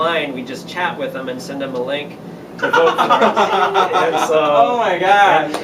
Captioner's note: laughter